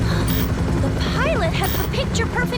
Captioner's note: gasp